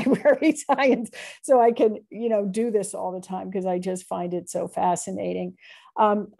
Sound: laughter

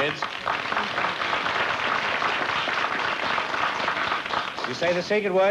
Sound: applause

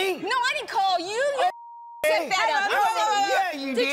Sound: beeping

